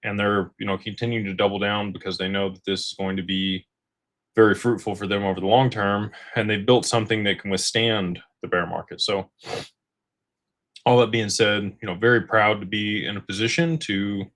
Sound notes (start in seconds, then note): 9.5 snorts